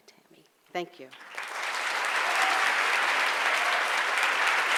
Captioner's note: audience applauds